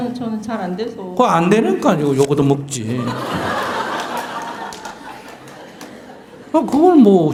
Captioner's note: audience Laughter